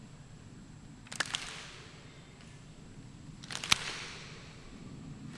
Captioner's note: rhythmic clapping